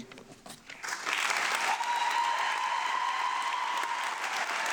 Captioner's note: audience applauding